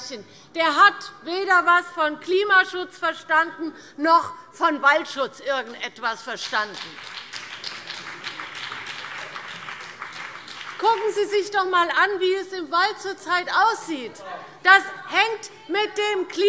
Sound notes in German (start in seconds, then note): 6.7 Beifall CDU und BÜNDNIS 90/DIE GRÜNEN